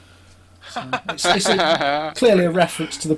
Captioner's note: laughter